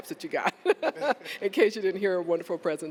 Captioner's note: laughter